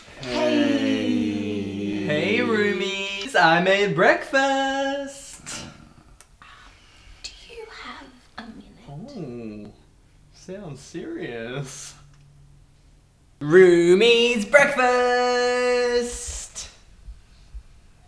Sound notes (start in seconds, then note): none